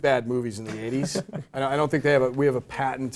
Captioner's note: laugh